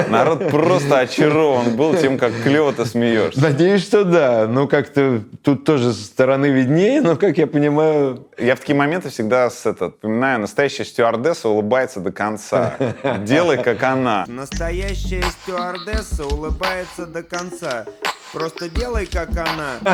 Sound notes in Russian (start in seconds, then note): 12.5 смеётся; 19.7 Смеётся